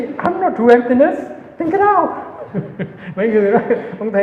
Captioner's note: laughs